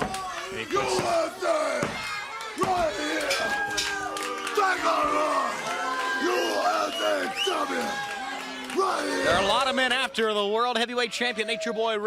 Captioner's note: crowd cheering